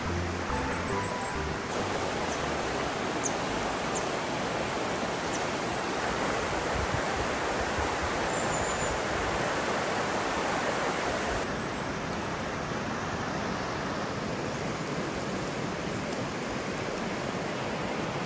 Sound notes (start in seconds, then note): 0.0 running water